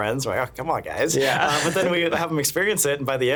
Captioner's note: laughing